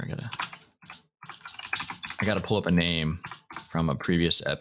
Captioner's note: typing